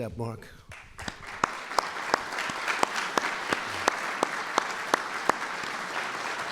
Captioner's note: applause